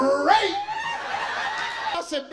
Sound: audience laughing

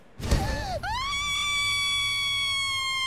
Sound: screaming

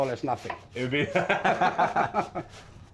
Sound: laughter

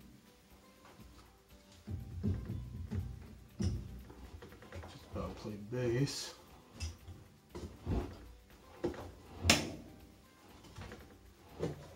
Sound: plucking steel cable produces low sound

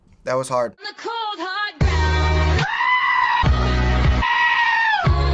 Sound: screaming

